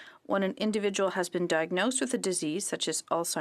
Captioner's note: speaking french